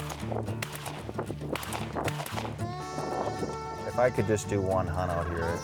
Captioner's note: gunshots